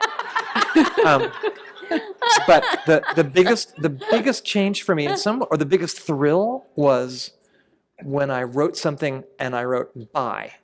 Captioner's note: laughter